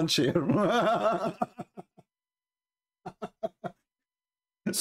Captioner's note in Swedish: Skratt